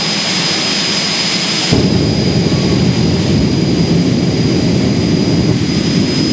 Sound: jet funny cars engine sound

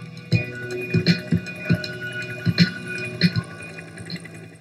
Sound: helicopter

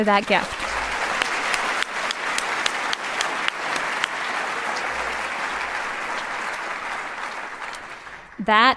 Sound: applause

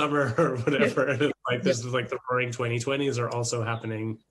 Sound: both chuckle

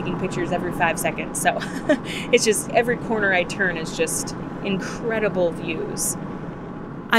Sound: laugh of disbelief

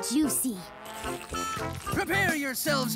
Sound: slurping

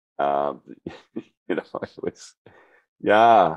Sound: laughter

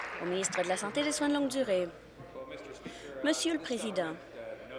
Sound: applause

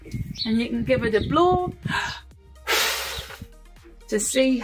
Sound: blows loudly

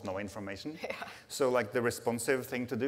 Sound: laughs

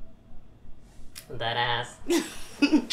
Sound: laughs

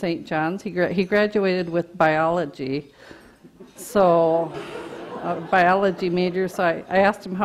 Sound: audience laughter

